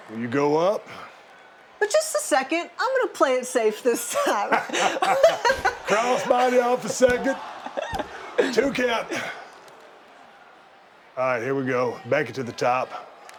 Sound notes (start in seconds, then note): 3.9 laughing